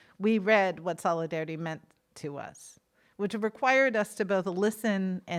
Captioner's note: none